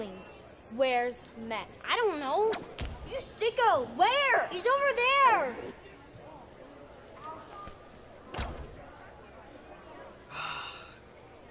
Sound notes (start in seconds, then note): none